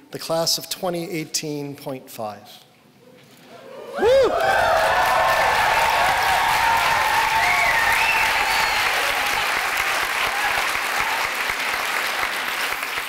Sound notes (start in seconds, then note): 4.5 cheering